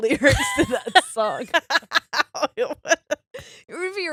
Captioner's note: laughing